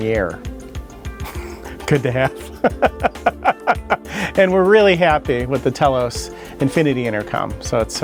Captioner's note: laughs